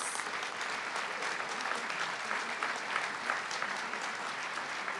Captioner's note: audience clapping